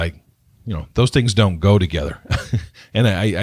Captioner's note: laughs